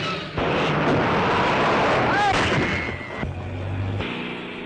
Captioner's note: brakes squealing; car crashing; tires squealing